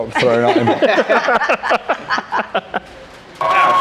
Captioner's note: laughing; mellow electronic dance music